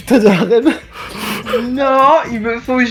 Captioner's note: small laugh